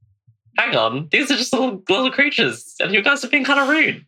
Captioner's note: laughing